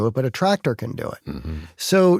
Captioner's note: throat clearing